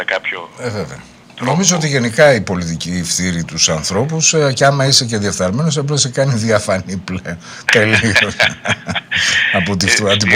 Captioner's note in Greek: γέλια